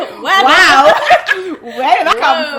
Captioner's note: both laugh